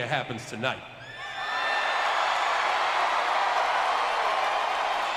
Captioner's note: crowd cheering